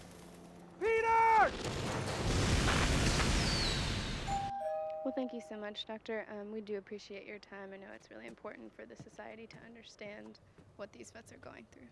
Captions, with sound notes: Peters! (explosions) (doorbell ring) Well thank you so much Doctor, we do appreciate your time. I know it's very important for society to understand what these vets are going through.